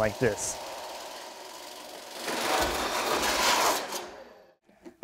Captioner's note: saw whirring